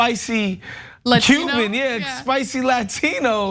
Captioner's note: laugh